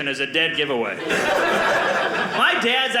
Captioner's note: audience laughing